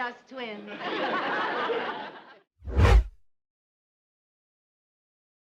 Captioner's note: audience laughs